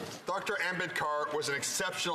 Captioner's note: speaking French